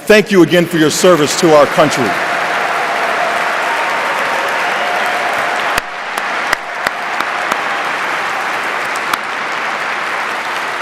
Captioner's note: applause